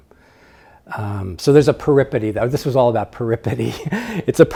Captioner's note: laughs